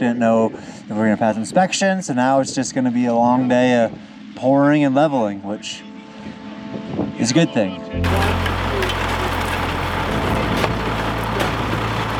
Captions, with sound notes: didn't know if were gonna pass inspection, so now it's just gonna be a long day pouring and leveling, which is a good thing. (truck revving)